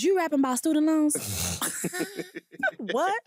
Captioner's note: laughing